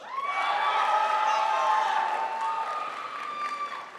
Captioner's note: crowd applauds